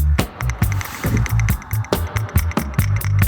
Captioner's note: pillow scraping; upbeat music